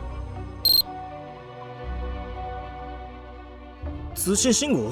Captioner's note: beep, beep